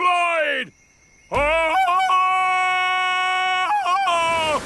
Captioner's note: ululating